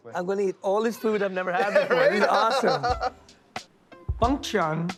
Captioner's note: laughs